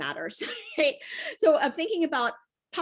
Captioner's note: chuckles